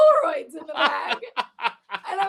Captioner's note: laughs